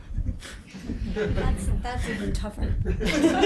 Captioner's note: groups laughs